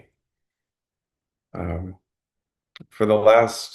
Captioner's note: pause